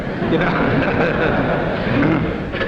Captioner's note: audience laughs